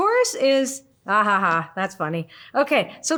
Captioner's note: laughs